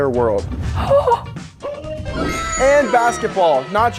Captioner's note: gasps